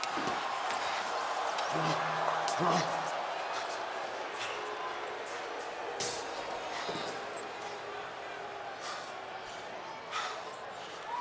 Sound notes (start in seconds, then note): 0.8 booing